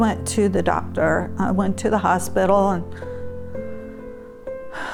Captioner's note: sighs